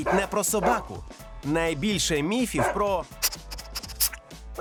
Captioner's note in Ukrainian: фиркає, як їжак